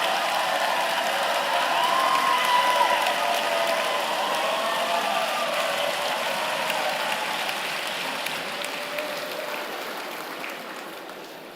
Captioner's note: applause